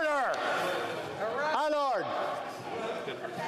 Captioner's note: some Applause